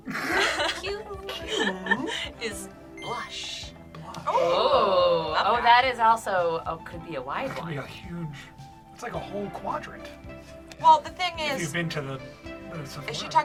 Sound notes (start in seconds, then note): 0.0 group laughs; 3.0 word twinkles; 4.0 group awes